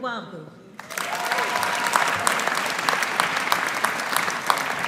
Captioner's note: audience applauding